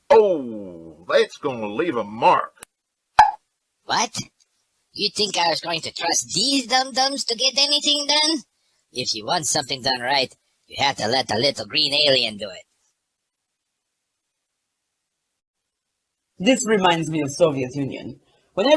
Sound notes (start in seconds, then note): 3.2 Wazoo pops